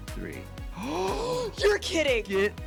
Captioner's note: gasp